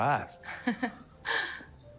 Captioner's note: Michelle chuckling